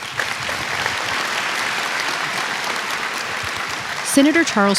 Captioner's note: applause